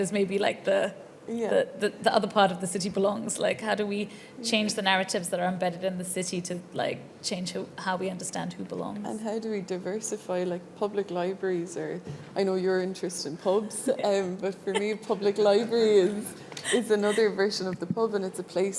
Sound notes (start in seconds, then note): 14.2 audience laughing; 14.7 laughing